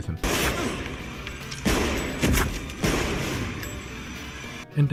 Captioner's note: being shot sounds